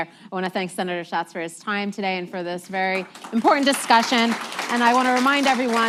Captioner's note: applause